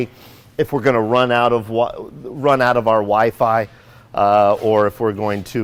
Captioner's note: stutters